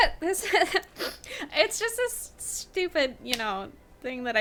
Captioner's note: laughing